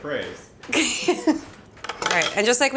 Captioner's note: laughs